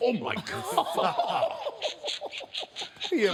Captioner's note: all laugh